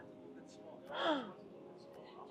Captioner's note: gasp